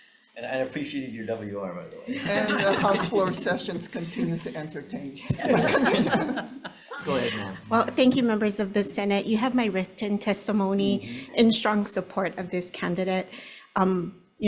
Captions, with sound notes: - And I appreciated your WR by the way. - And the house floor sessions continue to entertain. (all laughing) - Go ahead, ma'am. - Well thank you members of the Senate. You have my written testimony in strong support of this candidate.